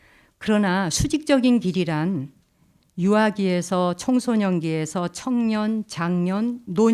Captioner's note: speaking in Korean